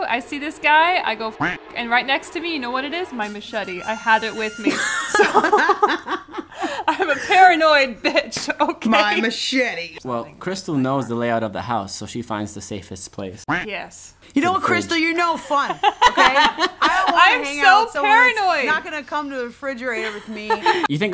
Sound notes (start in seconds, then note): 1.4 duck quacking; 4.6 laughing; 13.5 duck quacking; 15.8 laughing